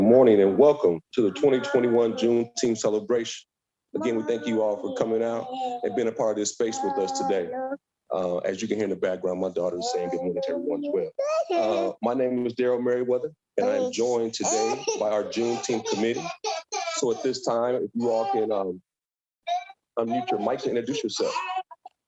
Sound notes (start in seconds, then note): 3.9 child murmurs; 11.5 child murmurs; 14.4 child laughs